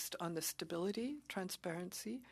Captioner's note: speaking French